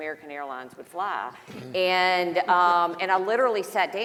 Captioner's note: panelists laughing